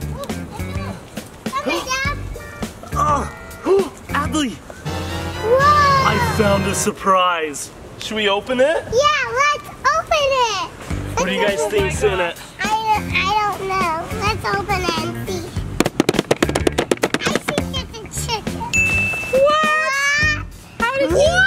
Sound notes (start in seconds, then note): 3.9 gasps; 15.7 thumping; 18.7 bell dinging